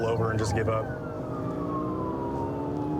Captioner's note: siren blaring